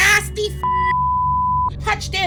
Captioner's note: beep